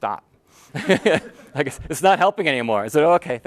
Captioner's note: laughter